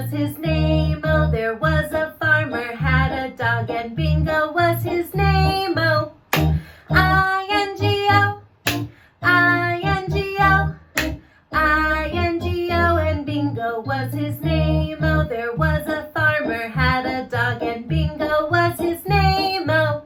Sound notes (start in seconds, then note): 6.1 clap